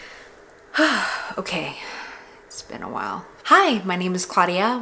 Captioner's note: sigh